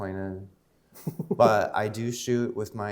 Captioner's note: laughing